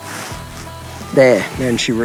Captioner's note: horse sighing